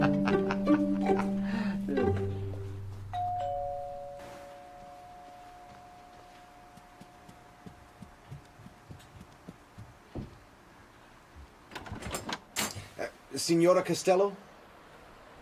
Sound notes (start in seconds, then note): 3.1 door bell